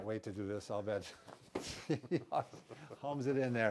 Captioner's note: chuckle